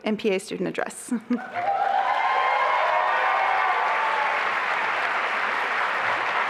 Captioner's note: applause and cheering